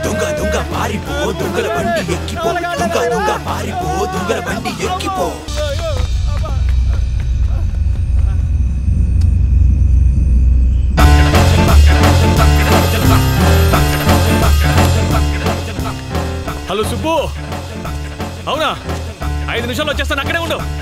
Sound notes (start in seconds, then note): 11.0 cell phone rings